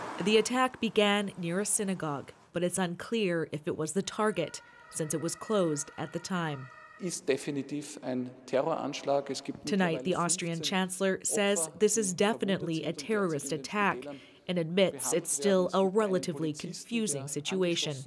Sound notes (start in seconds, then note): 12.1 speaking foreign language